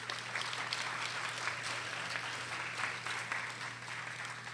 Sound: audience applauding

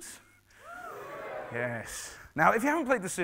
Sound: cheering

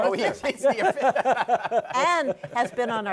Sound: laughter

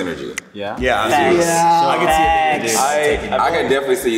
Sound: group agreeing

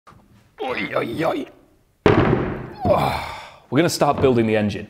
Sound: grunting

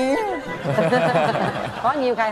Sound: laughs

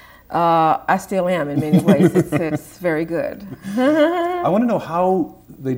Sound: chuckles

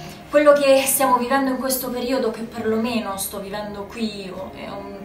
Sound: speaking foreign language

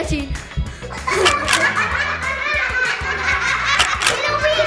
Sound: children laughing

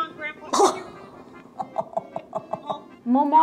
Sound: laughing

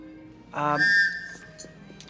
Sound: whistle go toot

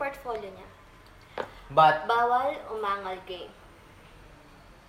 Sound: Dorian speaks hesistantly

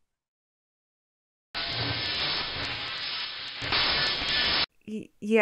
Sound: otherworldly Noise

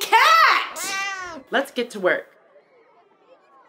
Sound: cat meows

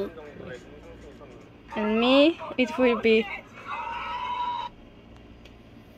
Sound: phone is noisy!

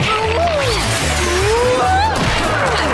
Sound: groaning

